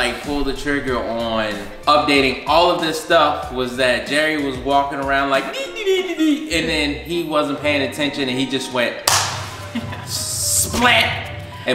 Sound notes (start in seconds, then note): 9.0 clap